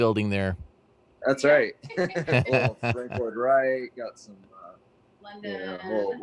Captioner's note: laughs